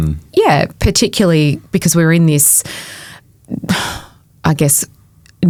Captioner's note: sighs